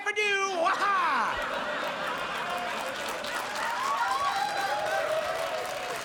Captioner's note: audience laughs and applauds